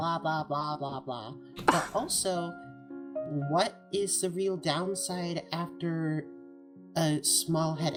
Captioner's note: ROSE scoffs